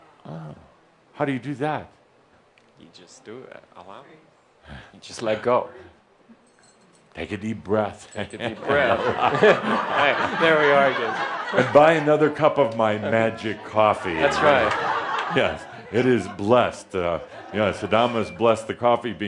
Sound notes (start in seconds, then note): 8.4 laughter; 14.1 more laughter